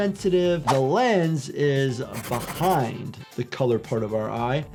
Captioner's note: pencil scratches